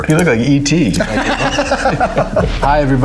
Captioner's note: Ben laughs